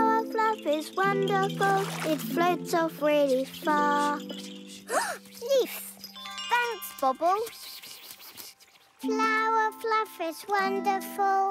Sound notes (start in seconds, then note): 4.5 gasps